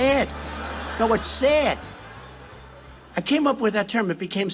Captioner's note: crowd laughing